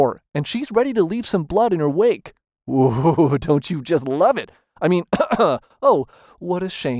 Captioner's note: cough